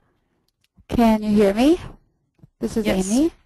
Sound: voiceover

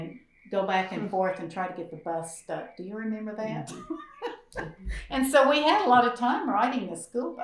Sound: laughs

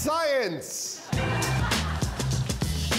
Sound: laughing

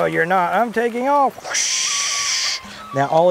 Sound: whoosh

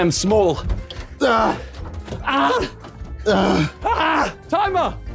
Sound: men grunting

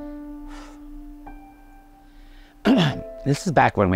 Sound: exhaling

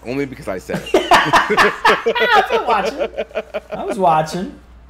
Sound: laugh

